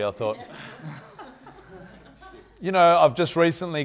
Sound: audience laughing

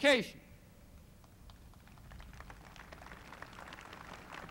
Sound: crowd applauding

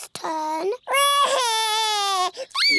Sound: cries

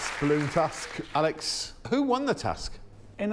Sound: applause

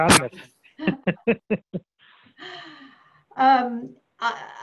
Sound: laughing

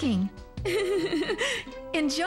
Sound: giggling

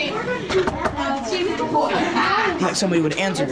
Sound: door knocking

